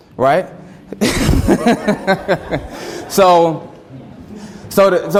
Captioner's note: everyone laughs